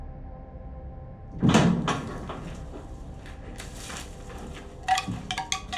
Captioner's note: massive door opening; wind chimes